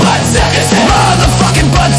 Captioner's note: powerful high pitch scream and wail outro